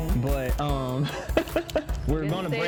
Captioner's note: laughs